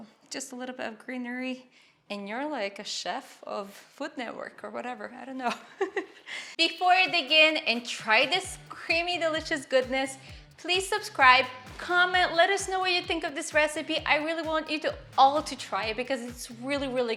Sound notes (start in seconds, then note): 5.5 giggling